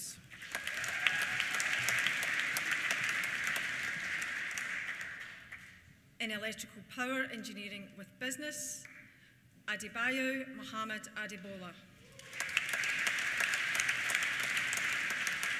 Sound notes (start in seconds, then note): 0.2 applause; 0.3 cheers; 12.0 applause; 12.0 cheers